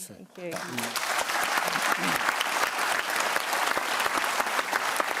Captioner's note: applause